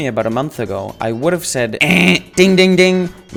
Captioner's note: imitates buzzer